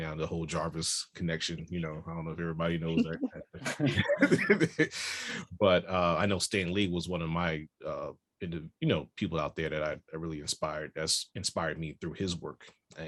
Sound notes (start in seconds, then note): 4.7 laughs